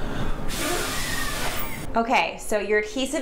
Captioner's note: man blowing